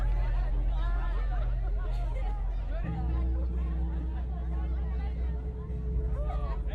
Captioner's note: chattering continues